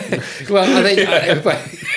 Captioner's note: laughing